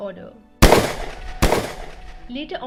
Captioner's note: gunshots fired